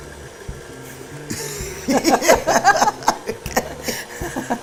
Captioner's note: laughing